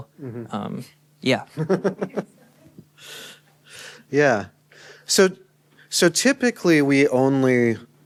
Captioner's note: laughter